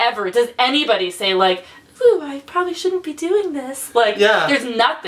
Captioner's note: high-pitched voice; laughs